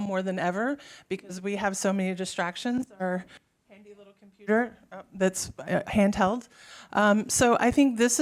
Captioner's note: mic drop-out